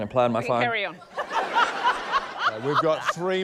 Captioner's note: laughter